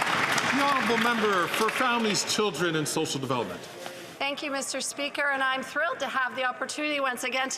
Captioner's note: some Applause